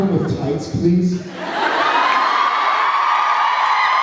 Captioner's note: laughs, cheers; cheers, applauds